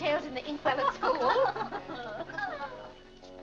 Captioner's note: women laughing